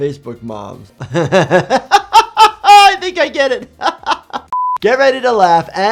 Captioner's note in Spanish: risas